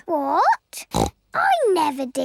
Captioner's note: snorts